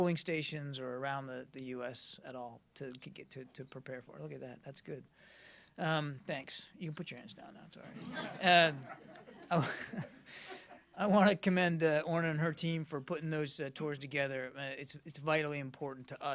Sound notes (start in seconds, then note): 7.8 laughter